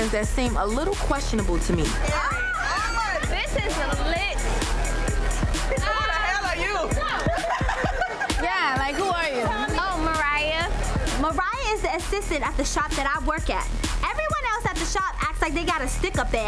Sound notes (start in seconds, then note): 2.1 overlapping chattering; 7.8 laughs